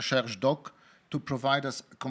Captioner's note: speaking in foreign language